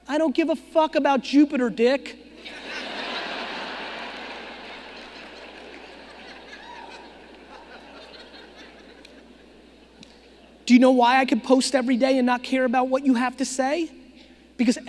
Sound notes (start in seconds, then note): 2.4 audience laughing